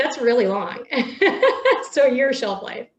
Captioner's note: laughs